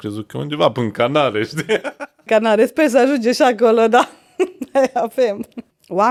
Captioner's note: laughter